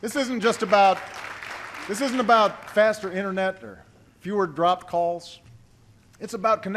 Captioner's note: applause